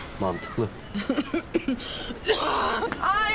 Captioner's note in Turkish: Öksürüyor